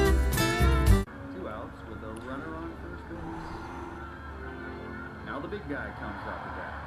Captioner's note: man on TV calling baseball game